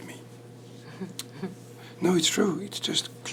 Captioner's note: chuckles